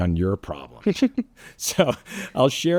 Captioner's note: laughing